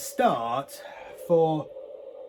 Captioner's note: exhales